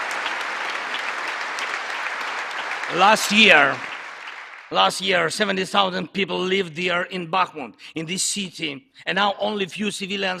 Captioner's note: applause